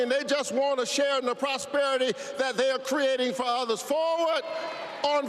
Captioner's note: applause